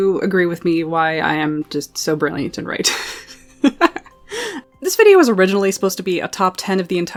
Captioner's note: laughs